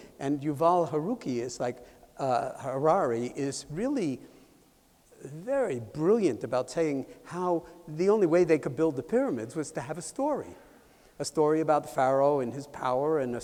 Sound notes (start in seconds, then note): none